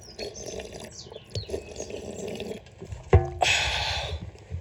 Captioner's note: slurp slurp